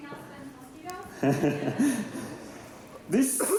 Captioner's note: laughter